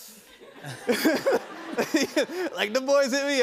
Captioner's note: laughter